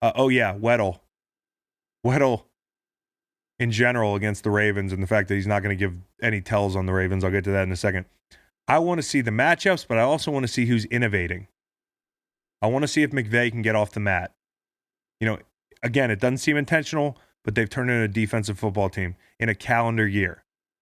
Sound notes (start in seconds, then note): none